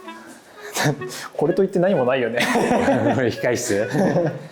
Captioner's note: laughs